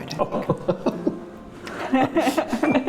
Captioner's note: laughing